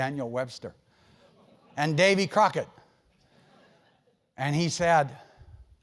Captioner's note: laugh